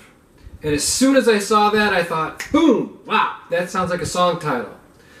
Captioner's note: clicks fingers